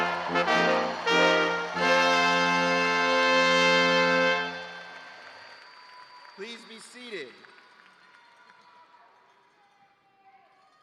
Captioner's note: cheers and applause